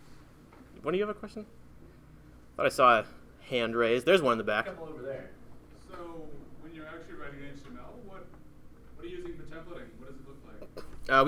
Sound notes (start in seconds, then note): 4.8 voiceover